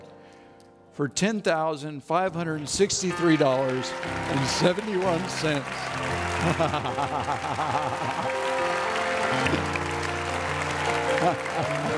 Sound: audience Cheers

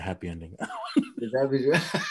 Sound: laughing

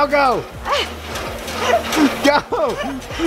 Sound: panting breaths

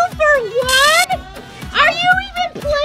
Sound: buzzer buzzes

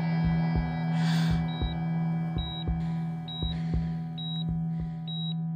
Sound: beeping sounds

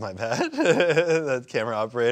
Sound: laughs

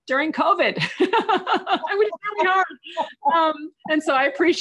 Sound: giggles

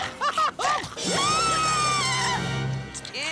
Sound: screaming

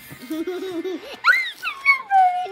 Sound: laughing

